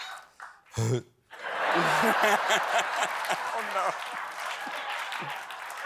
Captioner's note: gags